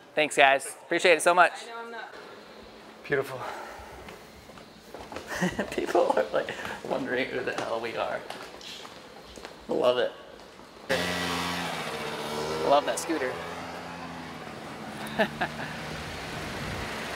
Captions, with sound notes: Thanks guys. Appreciate it so much. Beautiful. People are wondering who the hell we are! Love it. Love that scooter. (laughing)